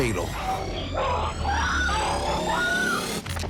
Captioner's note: woman screaming